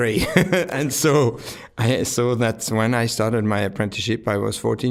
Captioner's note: laughing